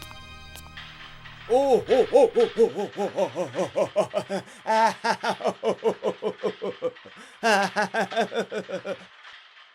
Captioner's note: laughing